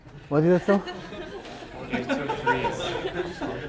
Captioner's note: laugh